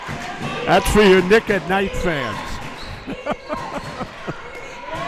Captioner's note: laughs